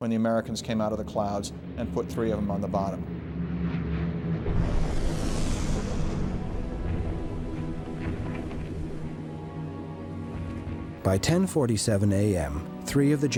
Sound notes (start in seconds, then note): 4.1 plane engines roaring; 7.8 explosions booming